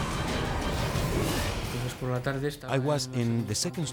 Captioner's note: intense music; wind whooshing; speaks in foreign language